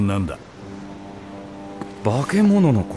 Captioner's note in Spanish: silbato de barco